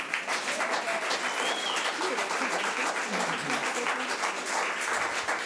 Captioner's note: audience applause